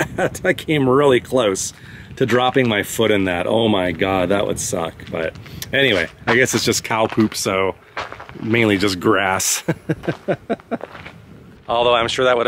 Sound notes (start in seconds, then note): 9.5 laughs